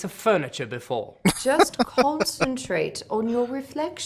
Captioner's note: laughing